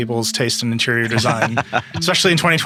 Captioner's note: laughing